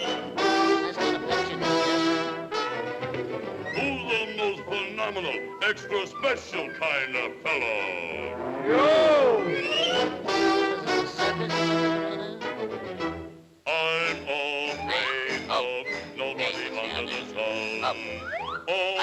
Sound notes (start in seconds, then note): 0.3 Popeye chattering; 0.3 dramatic music; 10.1 Popeye chattering; 10.1 dramatic music